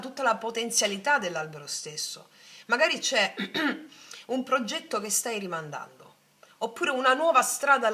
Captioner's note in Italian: schiarire la voce